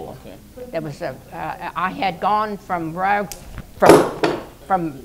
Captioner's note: noise... she drops her cane